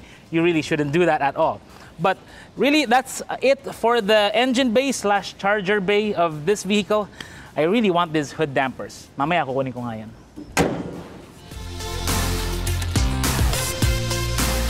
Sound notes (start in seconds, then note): 10.4 hood closes; 11.3 upbeat music